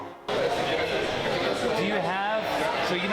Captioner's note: crowd buzzing